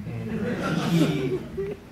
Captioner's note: crowd laughing